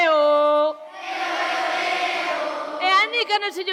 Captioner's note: echo